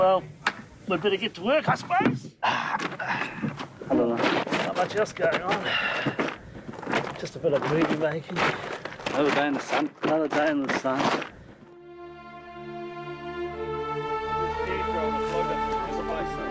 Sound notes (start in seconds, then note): 2.3 grunts